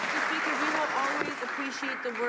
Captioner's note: some Applause